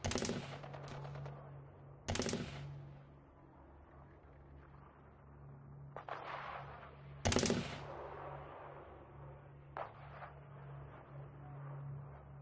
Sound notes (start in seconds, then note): 0.0 weapons firing continues; 7.3 weapons firing continues